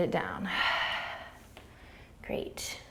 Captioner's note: exhaling